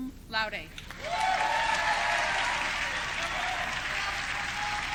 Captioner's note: audience cheering